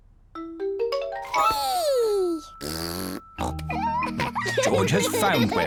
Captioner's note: blows raspberry and snorts